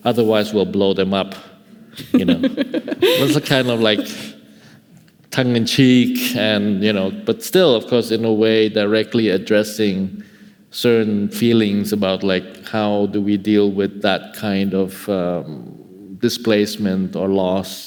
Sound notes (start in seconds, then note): 2.0 laughing